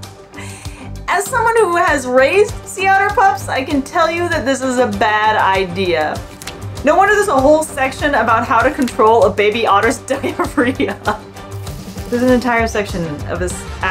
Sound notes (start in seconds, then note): 0.0 laughs; 0.2 background music; 10.1 laughs; 11.3 background music